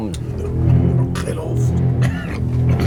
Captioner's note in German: keucht